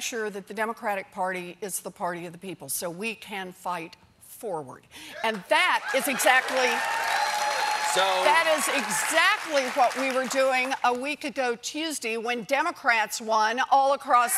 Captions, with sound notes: D.N.C. AND HE IS GOING TO PUT IN NEW RULES TO MAKE SURE THE DEMOCRATIC PARTY IS THE PARTY OF THE PEOPLE SO WE CAN FIGHT FORWARD ( CHEERS AND APPLAUSE ) AND THAT IS EXACTLY WHAT WE WERE DOING A WEEK AGO TUESDAY WHEN DEMOCRATS WON ALL ACROSS THIS COUNTRY.